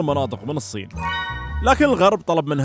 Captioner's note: happy Noises